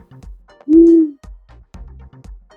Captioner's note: owl hoots